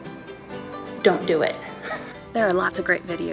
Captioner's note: laughs